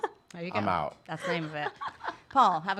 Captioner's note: laughs